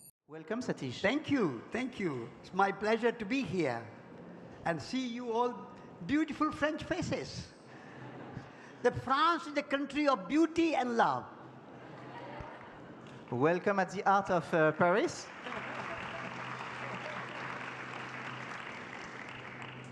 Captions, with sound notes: - Welcome Satish! - Thank you, thank you! It's my pleasure to be here and see you all beautiful French faces. [public laugh] The France is the country of beauty and love! [public laugh] - Welcome at the heart of Paris! [public applause]